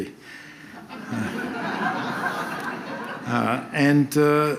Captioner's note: audience laughs